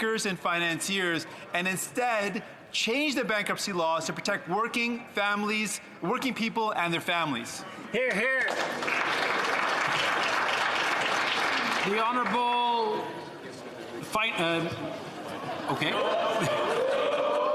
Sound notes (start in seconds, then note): 13.6 some Applause